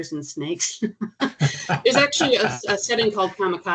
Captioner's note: chuckling